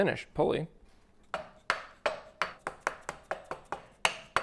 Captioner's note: tapping